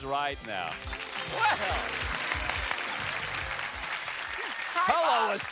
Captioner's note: theme music playing; audience applause